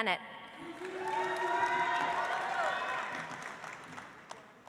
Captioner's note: audience applauds